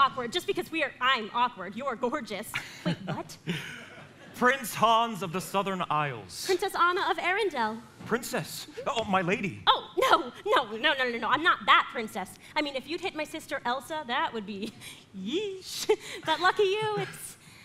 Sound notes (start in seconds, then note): 2.6 Hans laughs